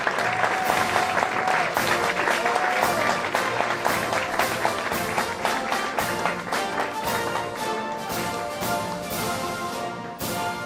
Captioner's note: applause